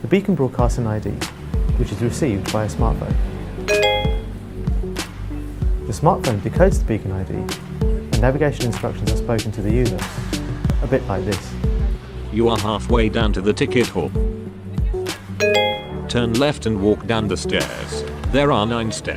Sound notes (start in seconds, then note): 3.6 chiming; 12.4 voiceover; 15.4 chiming